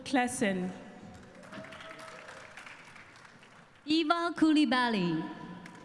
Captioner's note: cheering and applause